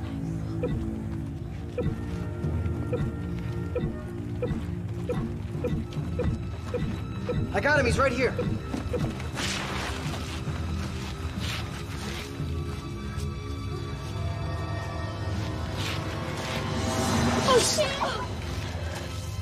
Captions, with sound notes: [blipping] - [blipping races] - I got him, he's right here. [eerie music] Oh sh...